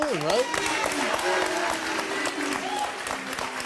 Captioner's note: applause